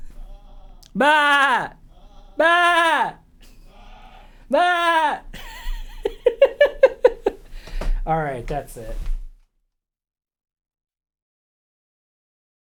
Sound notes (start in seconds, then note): 0.9 incomprehensible baaing